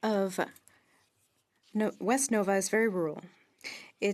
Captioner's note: speaking French